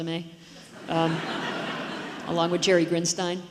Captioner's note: audience laughs